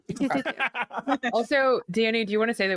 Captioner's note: Omega laughs